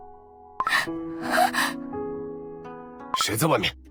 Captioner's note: gasp…